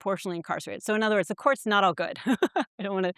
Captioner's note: chuckles